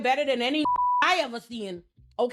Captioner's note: beep